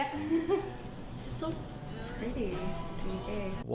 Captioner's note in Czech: nervózní smích